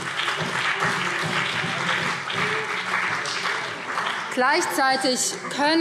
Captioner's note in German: Beifall BÜNDNIS 90/DIE GRÜNEN und CDU